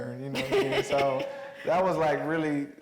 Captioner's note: Mireille laughing